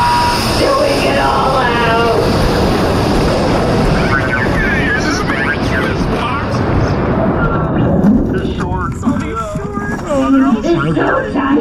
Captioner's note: alarm blares, hatch opens